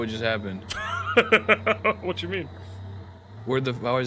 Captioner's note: laughs